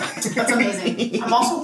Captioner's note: laughs